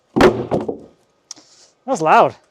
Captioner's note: wood thuds